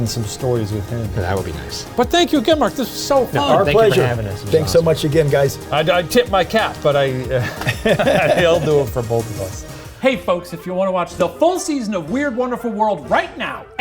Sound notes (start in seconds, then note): 7.2 all laughing; 9.9 upbeat music continues